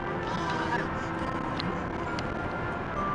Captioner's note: baby 'talking'